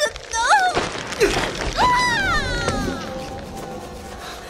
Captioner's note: Lan Ji screaming as she falls